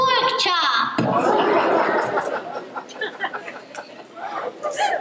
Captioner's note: laughter